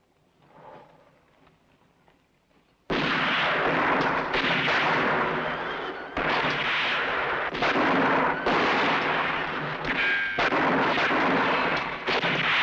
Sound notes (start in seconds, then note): 0.5 sighs softly; 2.9 guns firing